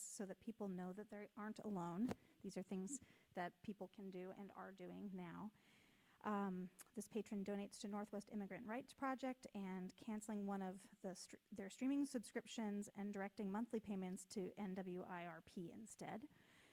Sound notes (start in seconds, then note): none